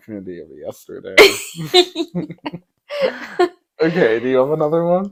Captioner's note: laughing